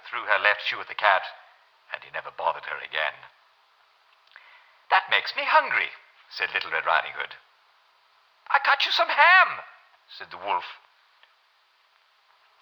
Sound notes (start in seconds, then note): 7.6 German voice